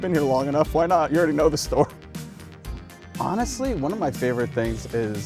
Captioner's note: laughs